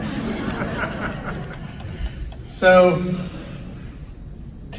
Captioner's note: audience laughs